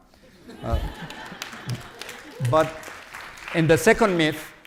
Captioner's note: audience claps